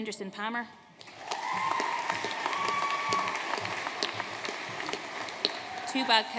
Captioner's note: audience cheering and applauding